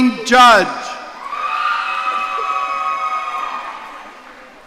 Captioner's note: audience cheering